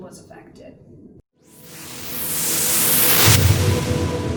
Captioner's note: whooshing